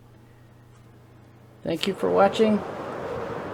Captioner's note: rushing wind